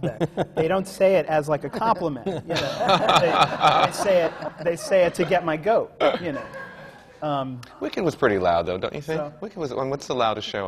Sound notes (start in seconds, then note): 2.2 laughter; 2.4 laughter from the panel